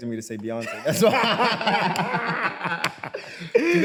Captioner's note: both laugh